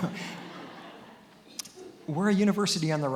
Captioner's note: attendees laughing